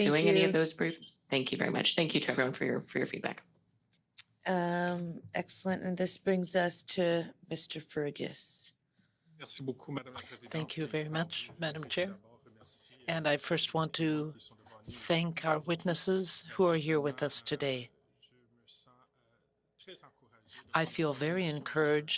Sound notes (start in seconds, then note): 13.7 speaking French